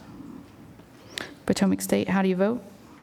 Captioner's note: silence